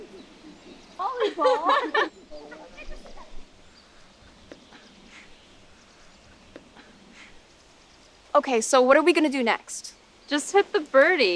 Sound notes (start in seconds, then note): 0.9 girls giggling; 4.8 campers faintly shouting